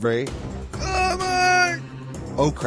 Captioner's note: zombie yell